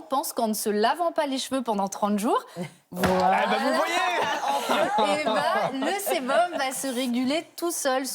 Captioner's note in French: rires